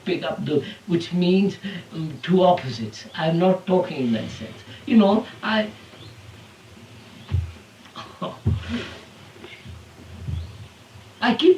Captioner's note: laughs